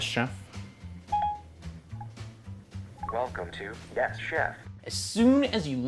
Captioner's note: ding, ding